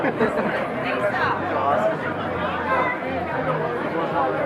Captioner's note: laughs; crowd chattering